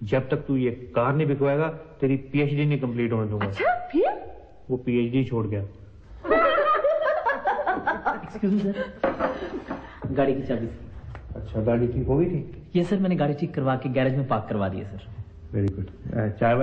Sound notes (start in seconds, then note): 6.2 Bhattis' wife, mom and sister laugh